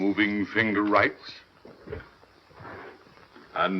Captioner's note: none